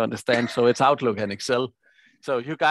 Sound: chuckles

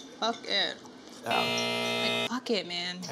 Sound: alarm buzzing

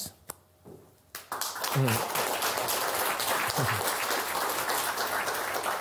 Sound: applause

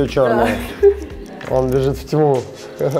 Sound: laughing

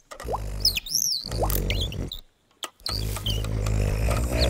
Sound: bird chirping; fox grunting

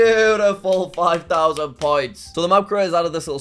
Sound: claps

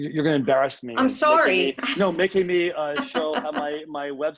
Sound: laughs

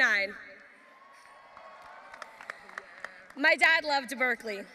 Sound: audience applauding

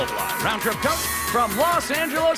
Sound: cheers and applause

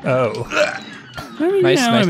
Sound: grunts

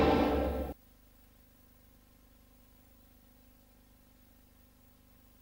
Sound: VHS static

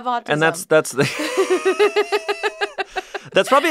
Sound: laugh

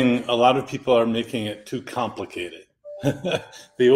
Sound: chuckles

